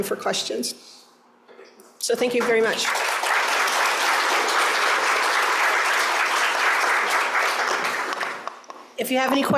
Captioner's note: applause